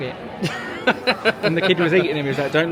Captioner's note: laughing